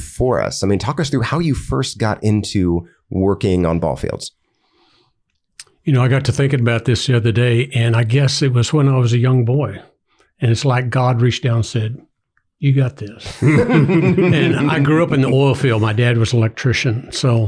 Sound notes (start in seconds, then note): 13.2 everyone laughs